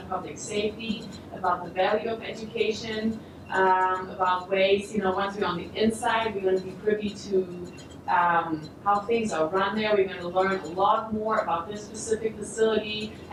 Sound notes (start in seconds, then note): none